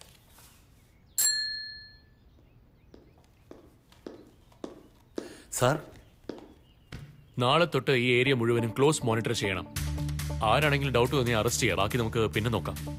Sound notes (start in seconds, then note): 1.2 Call bell dings